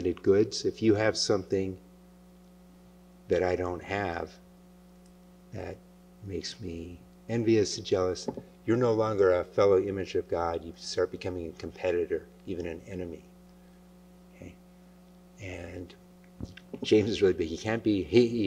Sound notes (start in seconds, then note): none